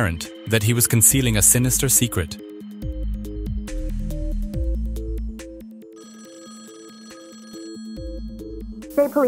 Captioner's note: phone line ringing